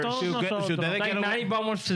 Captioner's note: speaking In Foreign Language